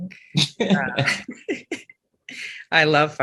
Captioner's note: panelists chuckling